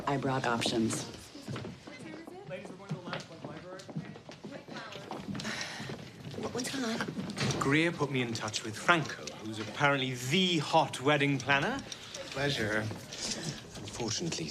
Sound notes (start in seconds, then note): 2.5 people chattering